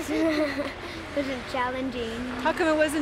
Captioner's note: laughter